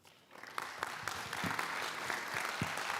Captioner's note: applause